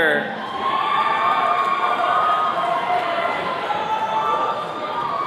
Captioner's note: attendees cheering